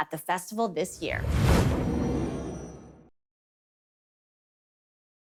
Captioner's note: transition sound